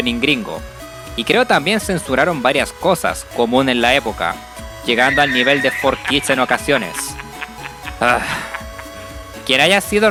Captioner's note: sigh